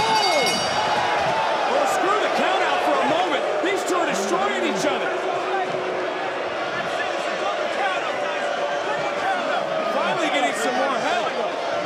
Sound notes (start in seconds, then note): 0.0 bell rings; 7.1 crowd boos